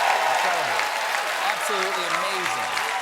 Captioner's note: cheers and applause